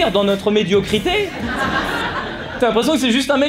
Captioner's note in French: rires